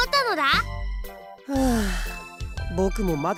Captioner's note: defused sigh